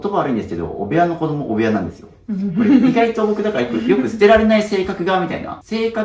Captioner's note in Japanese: 笑い